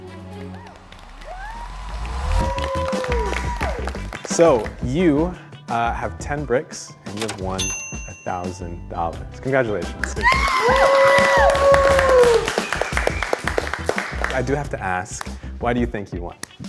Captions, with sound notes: (upbeat music) (all cheering) So you have 10 bricks and you have won a $1,000, congratulations. (all cheering) I do have to ask, why do you think you won?